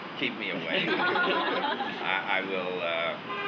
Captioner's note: laughing